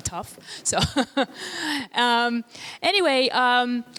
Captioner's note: laughing